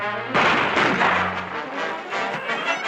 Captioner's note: gunshots; tense music